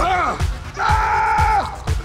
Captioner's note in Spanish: Coach grita